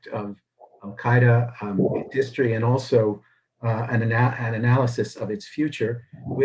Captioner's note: thunder